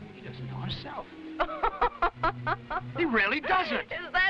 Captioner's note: Raina laughing